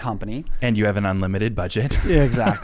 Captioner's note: laughs